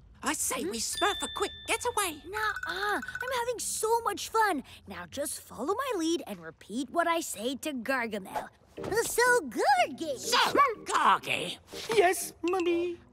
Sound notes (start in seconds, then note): none